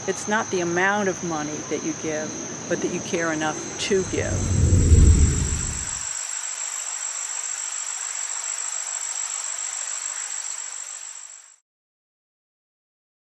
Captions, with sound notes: It's not the amount of money that you give, but that you care enough to give. (water running) (swooshing)